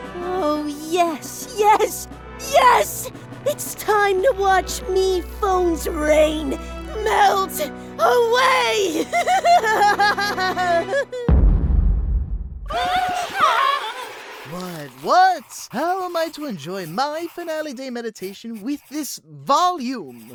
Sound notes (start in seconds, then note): 8.6 Springy laughs; 11.3 boom; 12.6 screaming